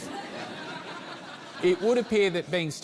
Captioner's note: laughter